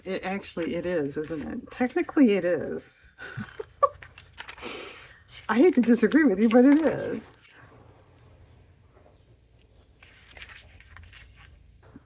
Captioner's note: laughs